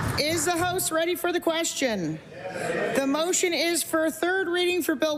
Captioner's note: applause